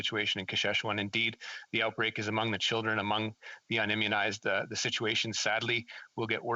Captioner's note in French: voix de l'interprète